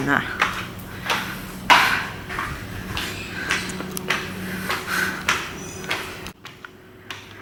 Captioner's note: pant